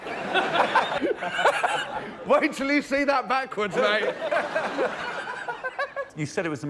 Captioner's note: laughter